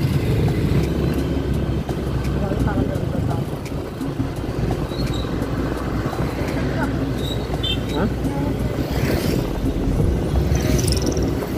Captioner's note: woman speaking in Pangasinan dialect